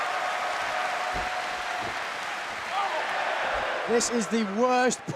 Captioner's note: crowd cheering